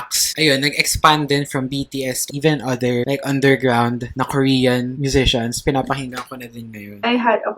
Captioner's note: Korean